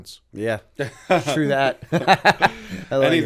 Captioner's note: laughter